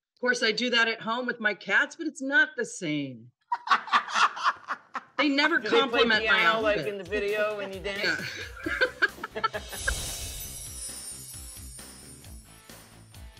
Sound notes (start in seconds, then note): 3.5 laughing; 8.1 upbeat rock music